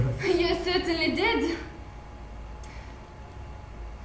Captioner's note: none